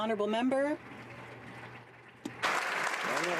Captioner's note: some Applause